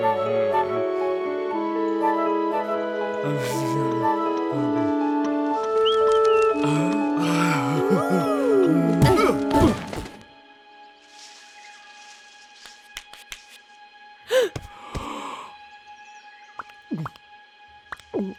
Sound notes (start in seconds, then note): 7.2 Eve exclaiming; 14.2 both gasping